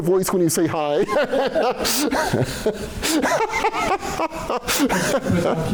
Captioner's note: laughter